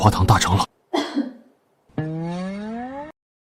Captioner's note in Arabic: سعال